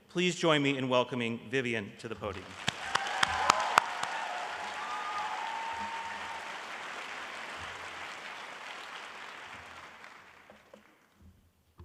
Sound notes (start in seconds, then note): 2.3 applause